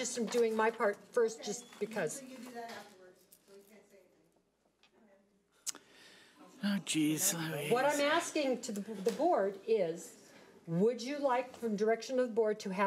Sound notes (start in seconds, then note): 3.2 woman murmuring softly